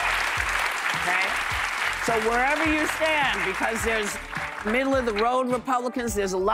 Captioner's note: applause